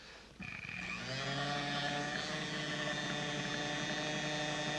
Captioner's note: whirring